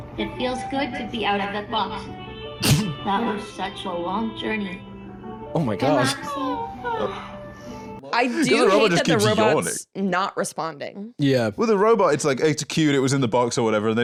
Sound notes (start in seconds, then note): 6.9 robot yawns